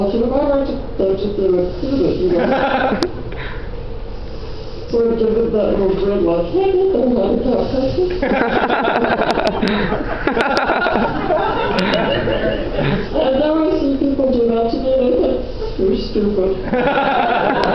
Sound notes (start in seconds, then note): 8.1 laughter; 16.6 laughter